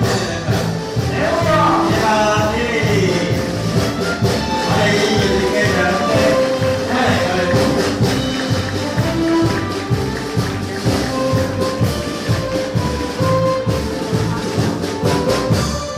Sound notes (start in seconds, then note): 0.1 upbeat music; 2.3 speaking foreign language; 11.1 upbeat music continues